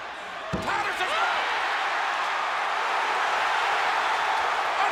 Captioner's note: audience cheers